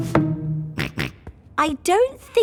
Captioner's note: snorts